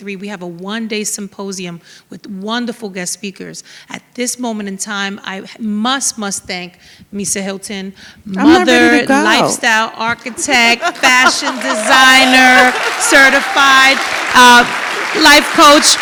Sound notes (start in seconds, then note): 10.0 laughs; 14.5 audience applauds